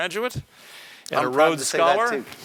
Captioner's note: laugh